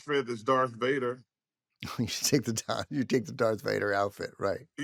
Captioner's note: chuckles